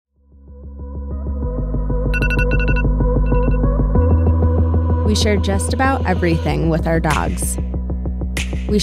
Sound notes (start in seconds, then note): 0.4 upbeat music; 2.1 alarm ringing